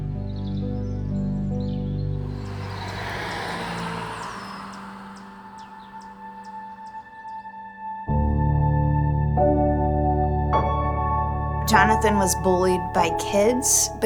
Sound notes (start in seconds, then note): 1.3 bright music continues; 2.0 birds chirping; 7.1 car engine whirs; 9.7 gentle music